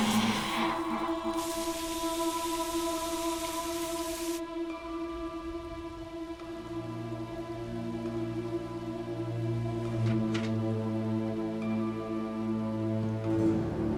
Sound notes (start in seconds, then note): 1.9 rain falling; 4.6 soft music